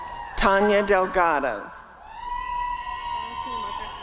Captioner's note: applause and cheering